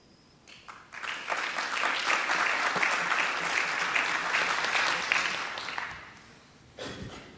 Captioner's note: applause